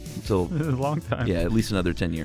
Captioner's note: laughs